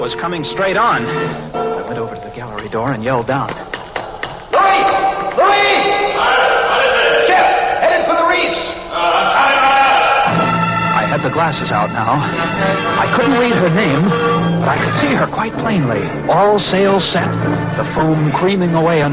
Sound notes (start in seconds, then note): 2.8 yells; 4.5 yells from down below